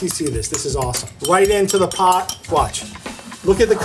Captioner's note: spoon clatters